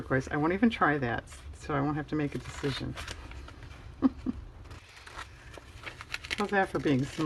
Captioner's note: laughs